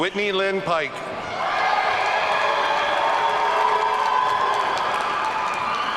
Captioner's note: audience cheering